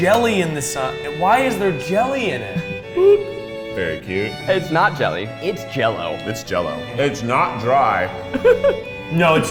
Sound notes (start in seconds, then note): 3.1 in Unison; 8.2 giggles